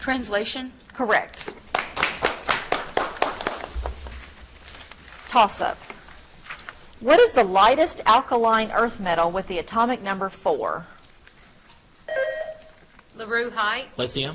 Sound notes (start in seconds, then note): 1.4 audience clapping; 12.1 buzzer trills